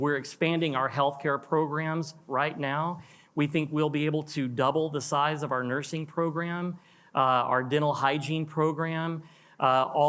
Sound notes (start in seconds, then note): none